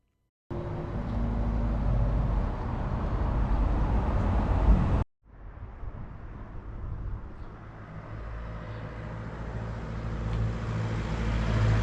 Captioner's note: car sounds